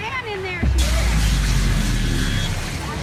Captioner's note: explosion